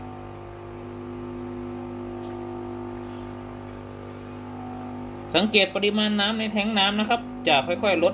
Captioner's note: normal water pump